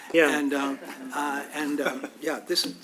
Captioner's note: laugh